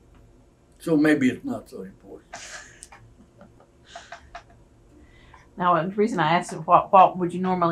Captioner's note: laughter